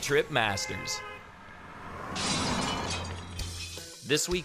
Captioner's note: glass shattering